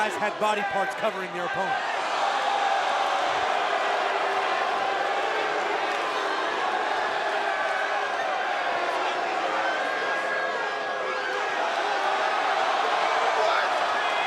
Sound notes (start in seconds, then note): 5.7 cheers & boos; 13.0 cheers & applause